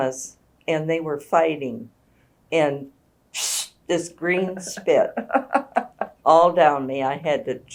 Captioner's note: makes spitting sound